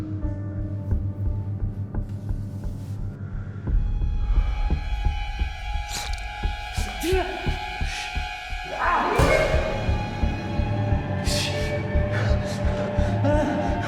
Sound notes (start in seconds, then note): 4.1 dark suspenseful music; 6.2 knife squishing; 6.2 man gasps; 9.4 dramatic music